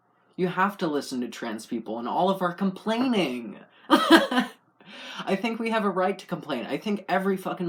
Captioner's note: laugh